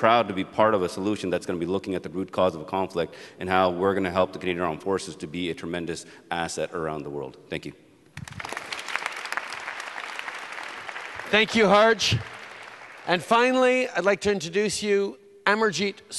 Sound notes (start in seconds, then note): 8.1 applause